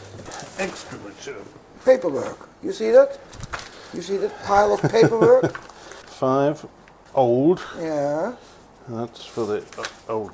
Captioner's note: laughing